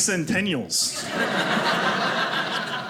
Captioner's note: audience laughing